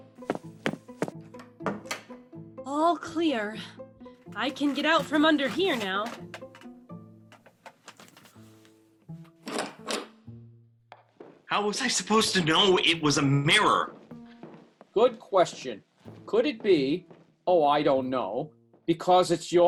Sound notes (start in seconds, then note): 6.4 Christine gets out from under the table, Door opens